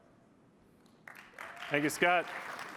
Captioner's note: applause